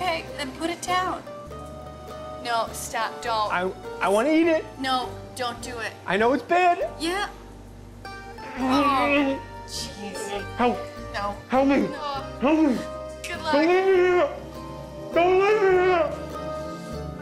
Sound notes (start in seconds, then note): 8.3 groans